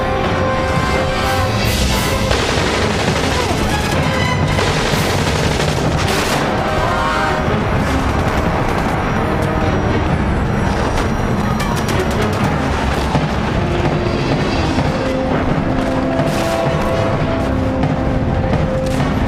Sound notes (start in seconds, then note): 1.9 gun firing; 2.6 intense orchestral music